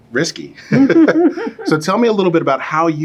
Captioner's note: both laugh